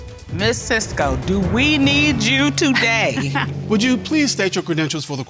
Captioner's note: chuckles